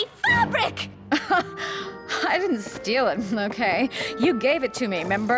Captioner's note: laugh